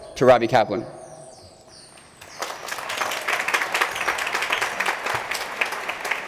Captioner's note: applause